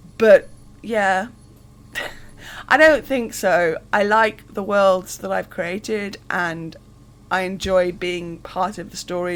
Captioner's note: laughs